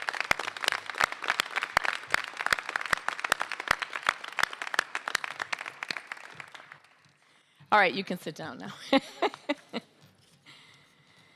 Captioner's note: applause